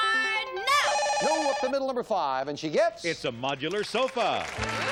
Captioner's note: beep